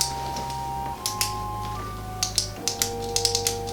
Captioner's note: click, click, click, clickity-click; click